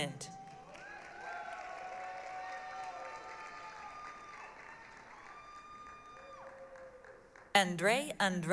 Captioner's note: applause, cheering